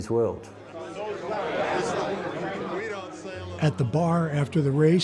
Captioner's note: crowd chattering